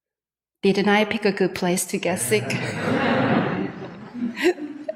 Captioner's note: laughs